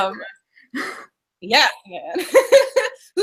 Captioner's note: laughing